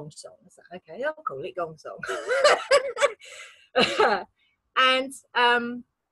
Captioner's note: laughs